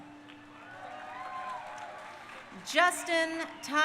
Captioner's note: crowd cheering